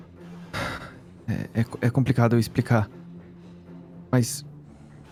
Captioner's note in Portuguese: suspira